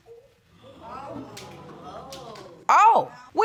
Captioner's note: audience gasps